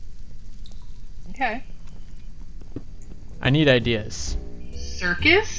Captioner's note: stompy